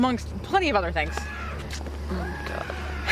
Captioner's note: Johnny screams